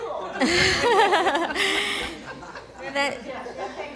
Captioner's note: laughter